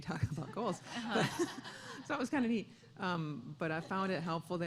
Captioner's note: laughter